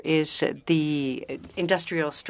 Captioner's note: speaking French